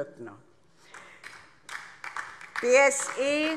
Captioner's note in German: Beifall DIE LINKE